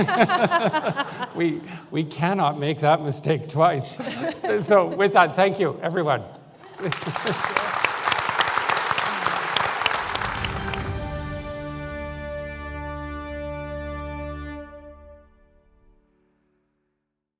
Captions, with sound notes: We we cannot make that mistake twice. So with that thank you everyone. (Applause) (Triumphant music)